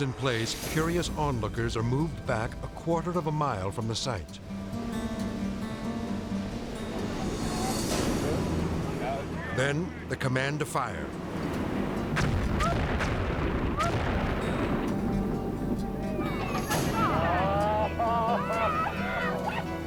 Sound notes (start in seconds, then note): 12.1 dynamite exploding; 16.2 people cheering